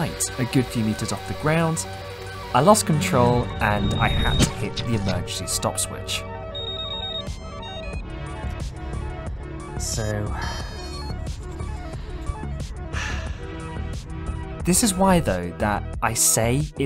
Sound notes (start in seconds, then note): 12.9 sigh